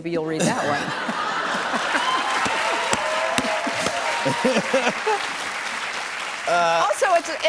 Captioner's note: laughter, cheers, applause